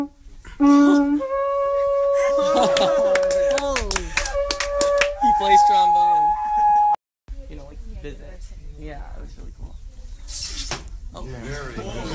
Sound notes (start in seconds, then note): 0.1 laughter; 2.6 applause